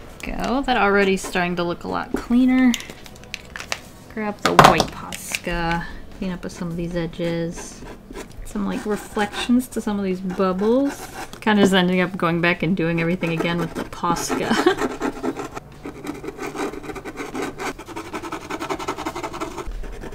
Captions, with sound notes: that already starting to look a lot cleaner grab the white POSCA clean up some of these edges add some reflections to some of these bubbles kind of ending up going back and doing everything again with the POSCA [scratchy art sounds] [more scratchy art sounds]